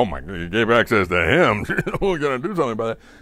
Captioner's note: laughs